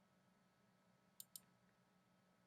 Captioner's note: clicking sound